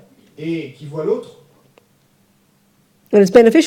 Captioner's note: audience member speaks in French